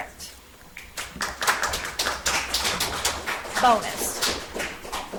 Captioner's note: audience applauds